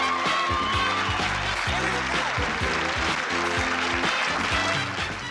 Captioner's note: applause